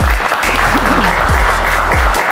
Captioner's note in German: Applaus